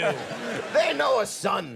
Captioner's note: audience laughs